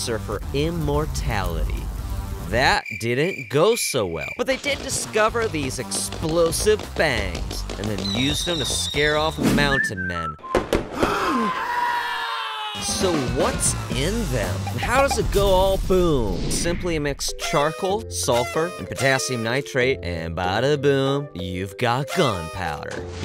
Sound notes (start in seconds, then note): 11.0 gasp; 11.0 scream